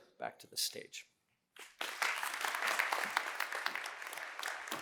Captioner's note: applause